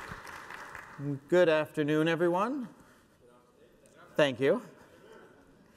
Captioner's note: applause